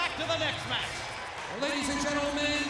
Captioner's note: audience cheers